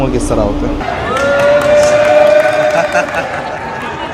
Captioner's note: applause